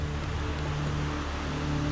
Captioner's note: rushing water